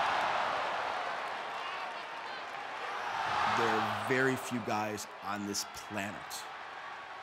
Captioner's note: applause